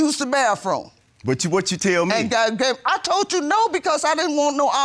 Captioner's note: stammers